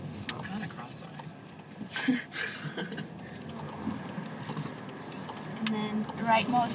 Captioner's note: laughing